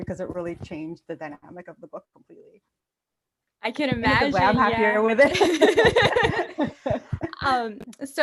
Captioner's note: laughs